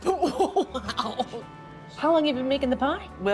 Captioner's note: laughing